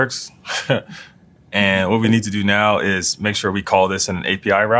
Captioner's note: laugh